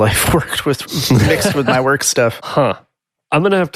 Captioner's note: chuckles